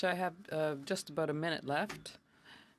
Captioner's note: speaking French